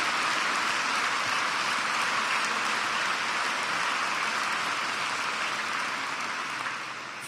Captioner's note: applause